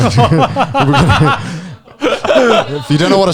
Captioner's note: laughing